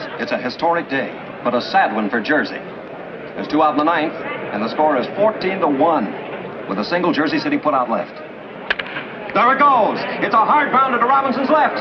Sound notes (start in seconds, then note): 8.6 bat cracks